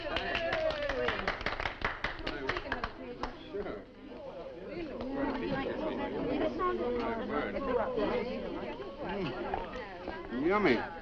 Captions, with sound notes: (people applauding) - Sure. (people chattering) Mm, yummy.